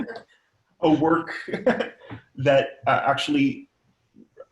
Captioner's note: laughs